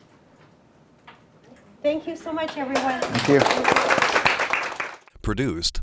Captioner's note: clapping